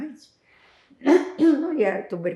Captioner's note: clears throat